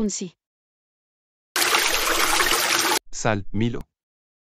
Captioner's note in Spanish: FX - Water Flow - 01